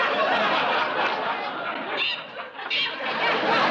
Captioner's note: mimics bird; laughter